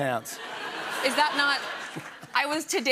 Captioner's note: laughter